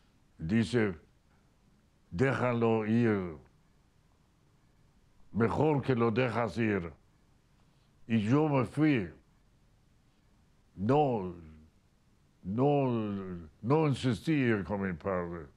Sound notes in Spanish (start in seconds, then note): none